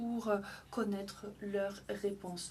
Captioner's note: speaking French